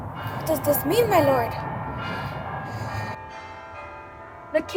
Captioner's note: bell chiming; bells chiming